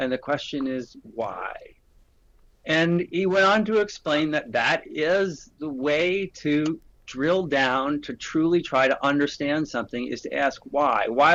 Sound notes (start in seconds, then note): none